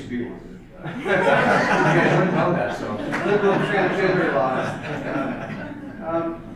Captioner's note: audience laughter